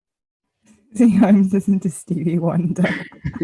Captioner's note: laughs